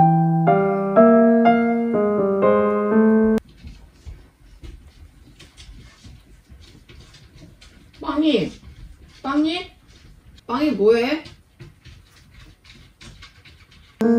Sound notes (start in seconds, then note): 3.6 BBang: The scratching sound; 6.6 BBang: The scratching sound~~~; 11.9 BBang: The scratching sound